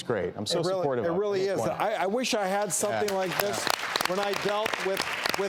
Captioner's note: applause